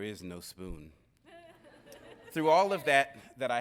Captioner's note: audience laughing